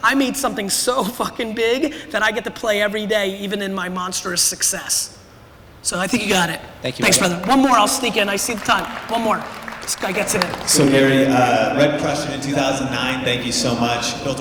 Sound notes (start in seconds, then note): 7.0 applause